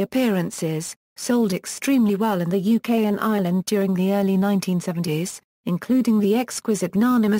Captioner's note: in English